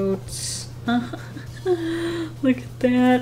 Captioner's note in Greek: Γέλια